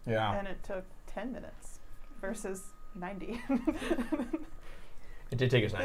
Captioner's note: laughs